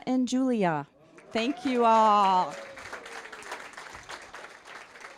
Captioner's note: applause